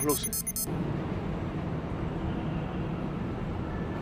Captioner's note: street traffic sounds